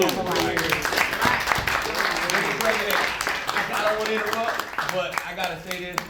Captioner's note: applause